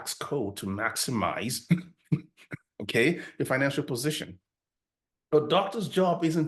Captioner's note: chuckles